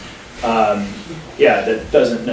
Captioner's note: audience members chuckling